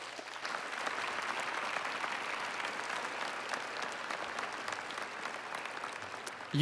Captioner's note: applause